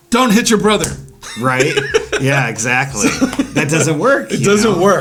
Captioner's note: slaps; laughs